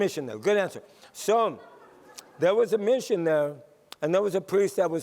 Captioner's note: laughter